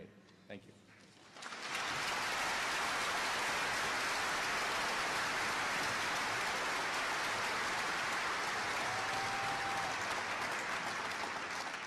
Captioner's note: applause